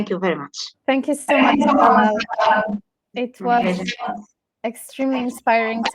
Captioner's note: chatter